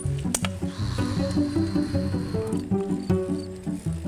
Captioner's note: makes engine noise